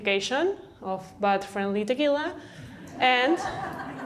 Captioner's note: laughter